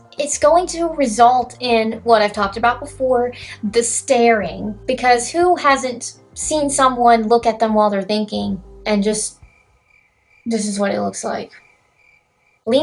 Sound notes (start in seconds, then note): 9.1 crickets